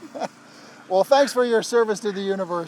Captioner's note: laughing